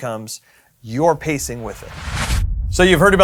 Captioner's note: whooshing sound